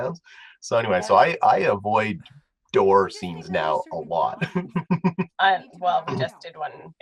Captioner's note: laugh